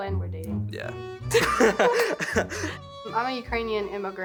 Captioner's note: laughs